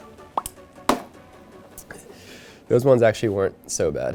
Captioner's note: digital popping; candy thunking